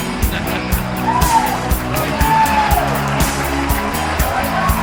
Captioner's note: some final hooting and hollering